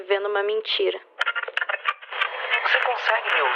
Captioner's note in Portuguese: ruído de interferência